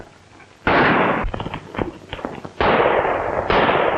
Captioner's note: gunshots